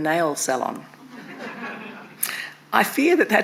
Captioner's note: attendees laughing